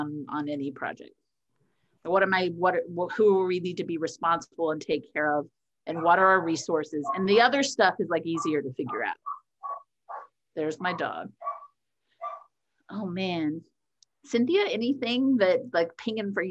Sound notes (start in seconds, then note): 9.3 dog barking